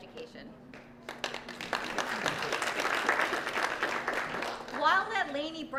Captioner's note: applause